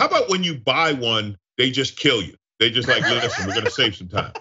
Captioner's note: laugh; laugh